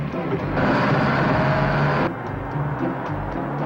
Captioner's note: truck roars